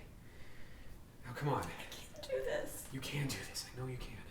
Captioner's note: weeping